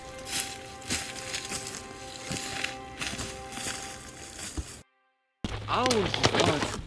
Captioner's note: footsteps crunching on leaves